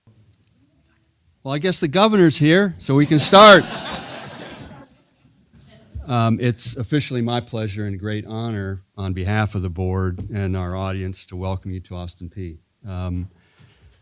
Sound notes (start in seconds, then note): 3.1 laugh